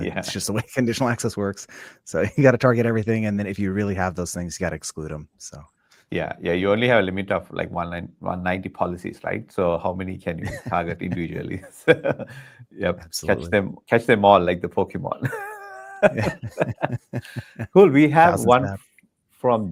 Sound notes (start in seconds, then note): 15.2 laughing